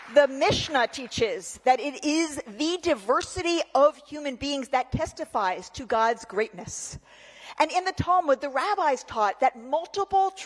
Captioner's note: applause